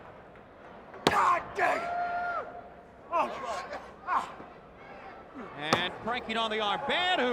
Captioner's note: crowd chatter